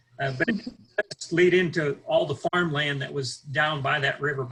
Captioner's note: audio is choppy